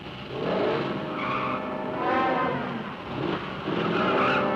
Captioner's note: engine revving; tires squealing